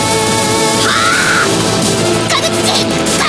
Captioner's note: roar